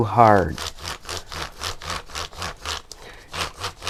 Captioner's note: crayon grates